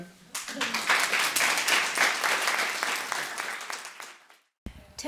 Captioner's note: clapping